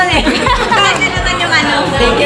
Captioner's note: laughs